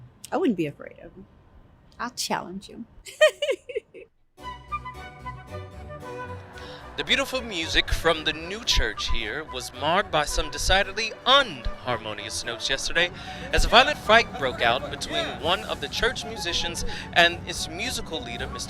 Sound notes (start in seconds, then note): 3.1 laughs; 4.8 bright music